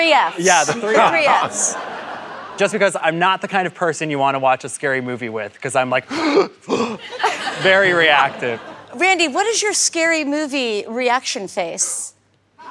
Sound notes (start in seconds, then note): 6.1 gasp